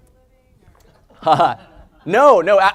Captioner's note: laugh